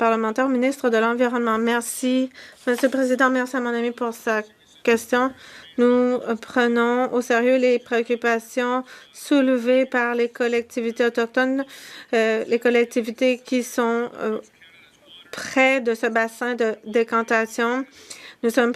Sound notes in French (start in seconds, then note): 5.3 voix de l'interprète